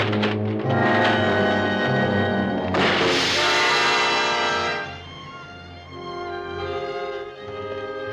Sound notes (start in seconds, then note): 0.4 suspenseful music; 2.6 crash booming; 4.7 dramatic music